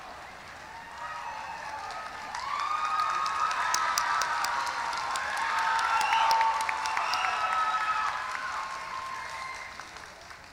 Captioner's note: applause; cheering